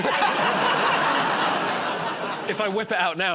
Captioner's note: laughter